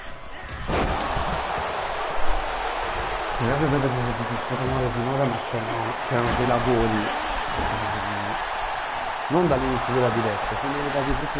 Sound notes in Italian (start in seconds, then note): 3.9 Applauso